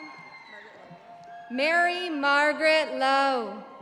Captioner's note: audience applauding; audience cheering